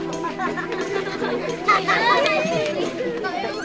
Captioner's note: speaking in foreign language; laughing